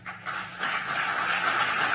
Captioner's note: applause